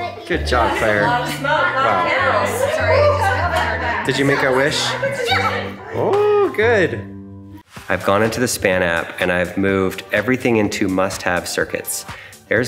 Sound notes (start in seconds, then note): 0.0 applause sustains; 1.7 attendees chattering